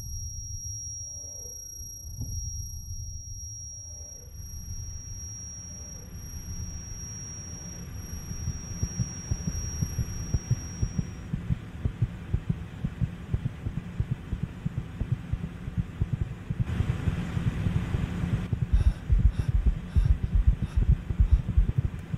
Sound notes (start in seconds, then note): 3.4 low whirring in the background